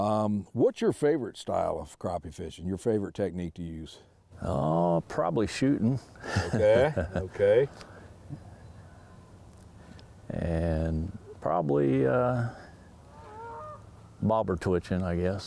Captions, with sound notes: What's your favorite style of crappie fishing? Your favorite technique to use? - Probably shooting.(laughs) - Okay, okay. - And probably bobber twitching, I guess.